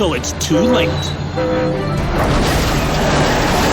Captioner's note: train whistle blowing